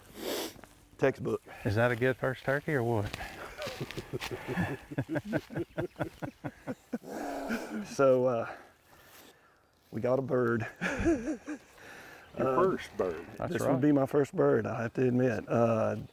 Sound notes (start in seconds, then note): 3.1 all laughing}